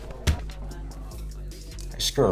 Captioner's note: light thudding